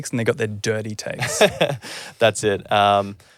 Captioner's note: chuckling